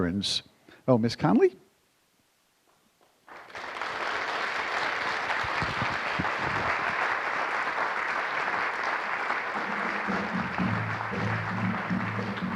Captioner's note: applause